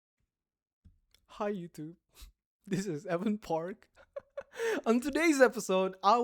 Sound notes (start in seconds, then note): 3.9 chuckles; 4.5 audible inhale